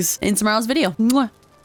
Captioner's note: kiss